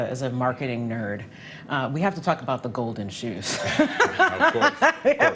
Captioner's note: laughs